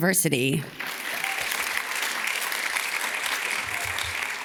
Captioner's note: audience claps